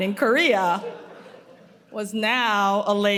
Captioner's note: audience laughing